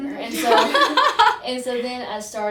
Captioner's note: laugh